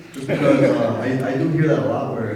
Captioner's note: audience laughing